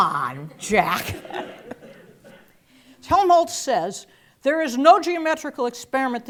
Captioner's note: laugh